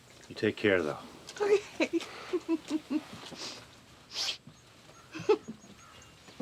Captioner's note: chuckles